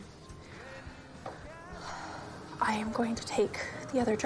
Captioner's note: sniffffles